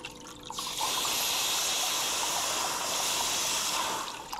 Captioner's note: Ranking hissing